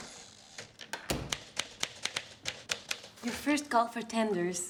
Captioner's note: typewriter keys clacking